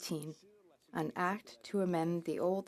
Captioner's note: speaking in French